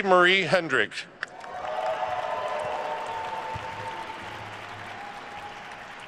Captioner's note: attendees cheering and applauding